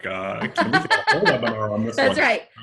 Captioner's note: laughs